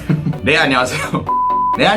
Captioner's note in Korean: 웃음